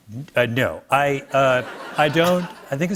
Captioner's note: laughter